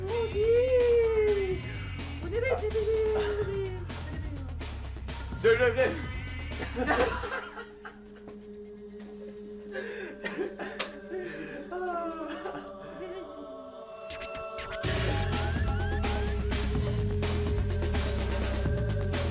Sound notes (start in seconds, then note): 0.0 stammers; 5.1 stammers; 6.5 both laugh; 14.1 fast-tempo electronica music